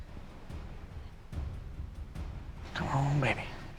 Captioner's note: quietly